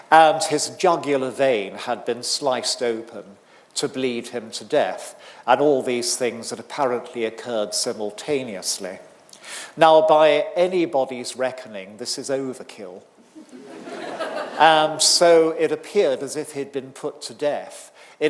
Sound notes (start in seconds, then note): 13.4 audience laughing